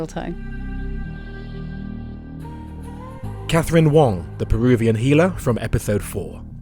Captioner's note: voiceover